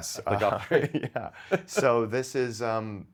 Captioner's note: men laughing